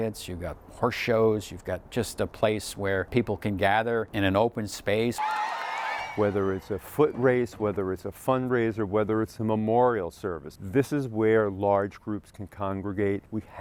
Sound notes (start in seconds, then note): 5.1 crowd cheering